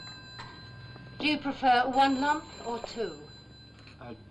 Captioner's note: phone ringing